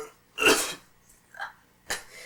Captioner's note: coughing